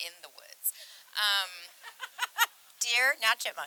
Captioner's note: group Laughing